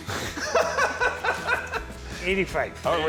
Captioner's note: laughing